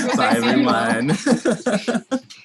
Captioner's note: laughing